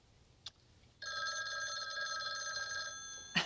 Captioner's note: telephone rings